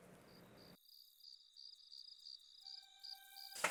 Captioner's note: crickets chirping